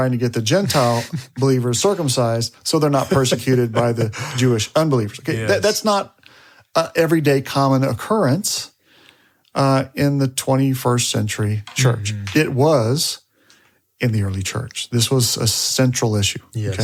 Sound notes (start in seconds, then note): 2.9 chuckles